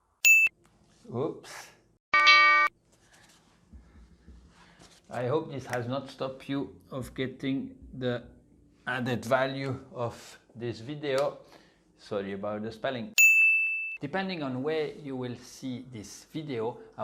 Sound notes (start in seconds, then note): 0.2 pinging sound; 2.1 alarm sounds; 13.2 pinging sound